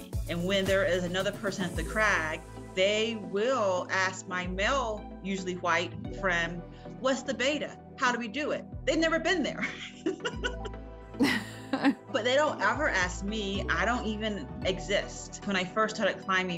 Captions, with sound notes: And when there is another person at the crag, they will ask my male, usually white friend, "What's the beta? How do we do it?" They've never been there. (both laughing) But they don't ever ask me. I don't even exist. When I first started climbing,